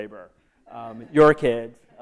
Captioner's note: laughter